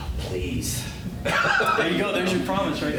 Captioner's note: sighs; laughter